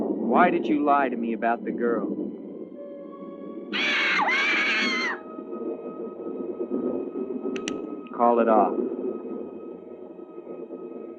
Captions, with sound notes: Why did you lie to me about the girl? [bird screeching] - [gun cocking] - Call it off.